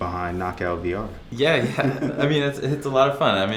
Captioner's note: laughter